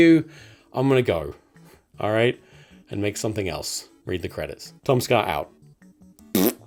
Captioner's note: fart noise